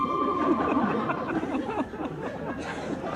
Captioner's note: laughing